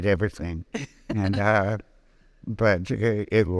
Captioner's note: laughing